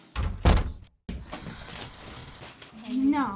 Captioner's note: door shutting